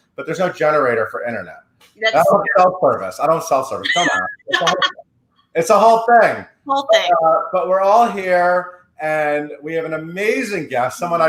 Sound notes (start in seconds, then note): 3.8 laughing